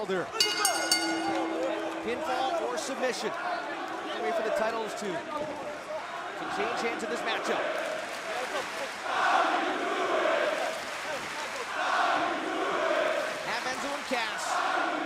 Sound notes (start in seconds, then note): 2.7 bell ringing; 9.6 crowd cheering